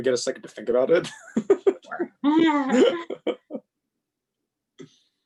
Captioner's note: laughing